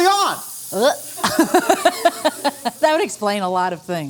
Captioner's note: laughing